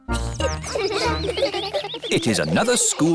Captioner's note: children giggling